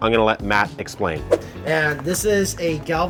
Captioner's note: whooshing